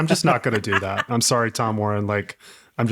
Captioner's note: laughing